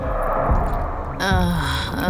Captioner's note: eerie groans